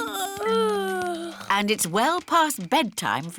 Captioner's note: yawning